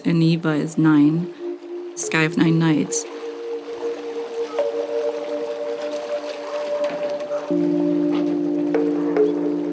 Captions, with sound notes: and "iva" is nine; sky of nine nights. (soft ambient music continues) (water lapping continues)